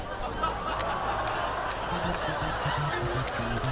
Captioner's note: audience laughs; mournful music